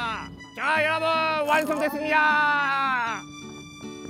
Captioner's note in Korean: 츄릅